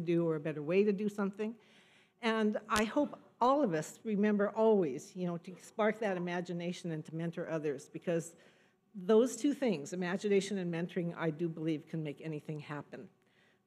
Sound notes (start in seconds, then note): none